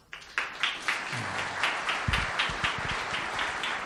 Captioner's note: audience claps